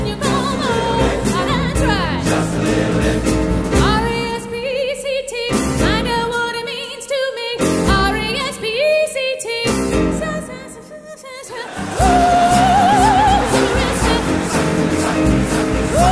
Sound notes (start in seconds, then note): 9.8 audience laughing